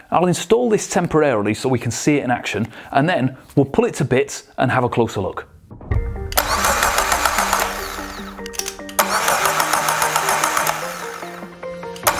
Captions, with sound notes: I will install this temporarily so we can see in action and then we'll pull it to bits and have a closer look. (motor revving)